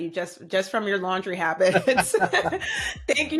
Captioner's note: laughter